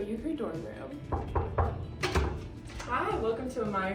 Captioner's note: hand knocking